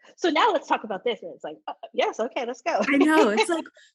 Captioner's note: laughs